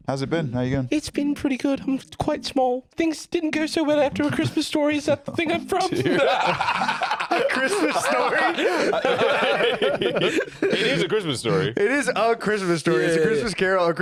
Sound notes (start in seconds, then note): 9.6 all laughing